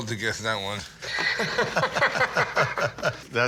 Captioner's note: laughter